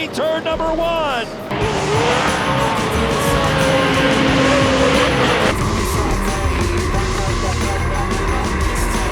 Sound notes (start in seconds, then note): 0.0 engines roaring; 4.9 rock music playing